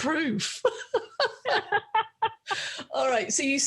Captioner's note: both laughing